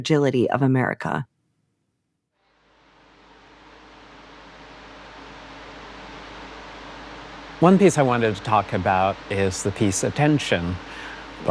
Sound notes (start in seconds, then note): 4.0 sounds of air blowing